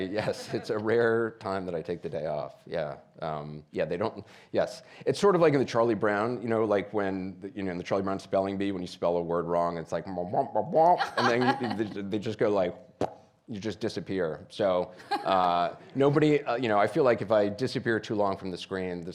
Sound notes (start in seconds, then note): 10.3 playfully murmuring; 12.7 lips puckers; 15.0 laughs